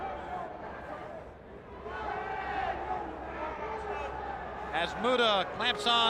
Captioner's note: crowd chatter